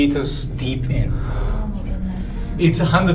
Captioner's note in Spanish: suspira